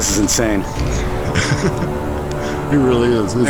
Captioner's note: laughing